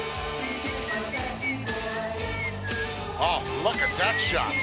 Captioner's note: upbeat rock music; Bobby whistling